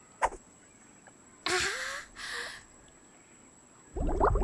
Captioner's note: sighing